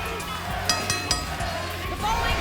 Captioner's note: bell dinging